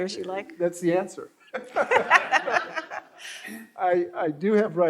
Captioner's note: all laughing